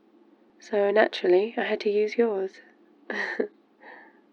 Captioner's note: laughs